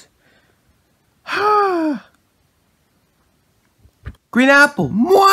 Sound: outhales

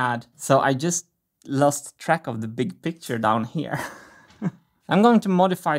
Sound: chuckles

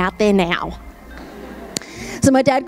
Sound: audience laughs

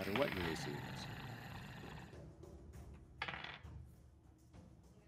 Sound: growling sound effect

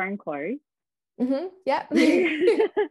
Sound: laughs

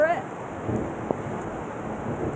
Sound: thunder

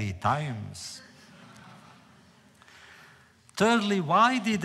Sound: laughter

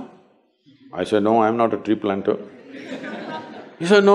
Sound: laughter

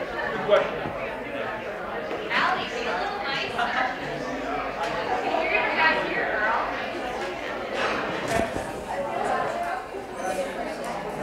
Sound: chatter

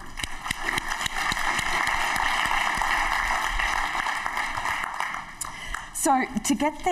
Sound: applause

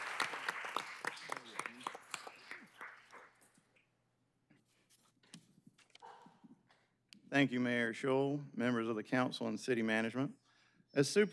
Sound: applause

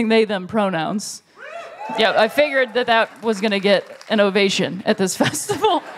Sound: cheers

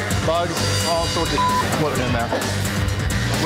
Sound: beeping

